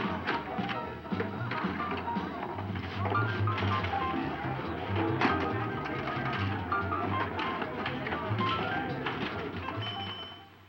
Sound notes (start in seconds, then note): 4.0 people murmuring; 4.0 uptempo piano music